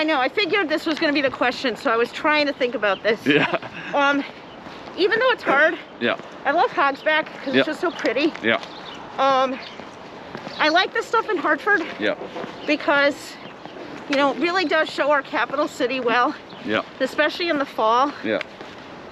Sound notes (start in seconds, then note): 3.2 laughs